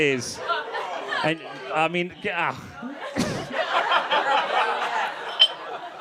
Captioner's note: laughs